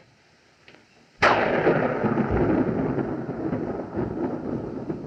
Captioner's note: loud Thunderclap